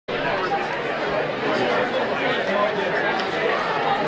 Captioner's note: busy chattering